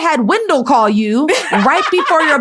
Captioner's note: laughs